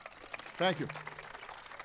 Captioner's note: applause